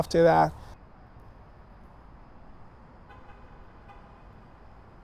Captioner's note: traffic humming